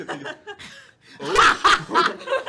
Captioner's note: laughter